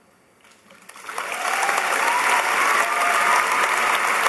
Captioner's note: applause